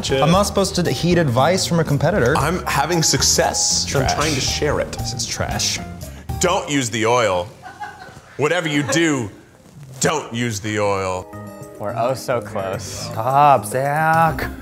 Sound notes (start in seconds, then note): 7.6 crew laughing